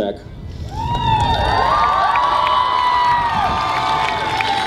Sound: audience cheers

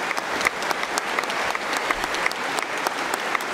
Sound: applause

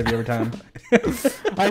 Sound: laughing

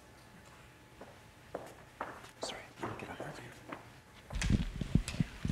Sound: footsteps tapping

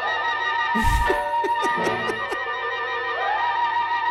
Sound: laughs

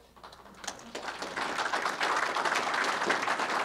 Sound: applause

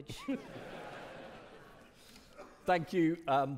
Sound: audience laughing

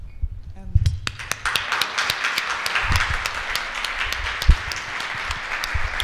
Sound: applause

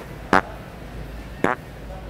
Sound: farting noise

